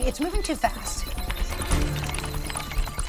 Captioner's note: generic beep boop hacking noises